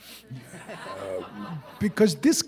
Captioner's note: audience laughing